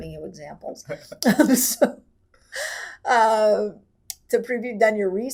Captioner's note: laughing